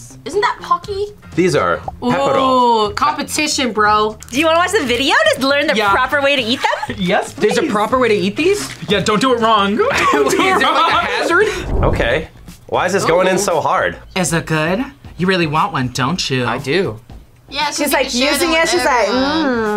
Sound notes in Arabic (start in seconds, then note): 9.9 يضحك